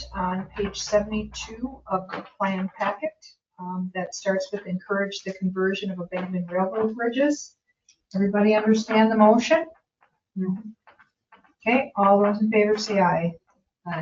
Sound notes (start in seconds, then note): none